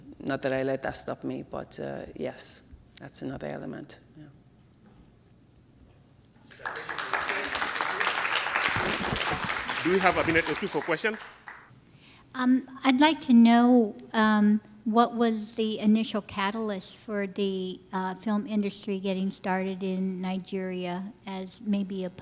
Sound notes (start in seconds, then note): 6.4 applause